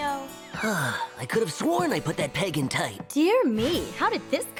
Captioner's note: sighs